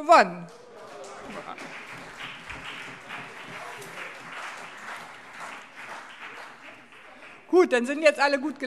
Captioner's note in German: Allgemeiner Beifall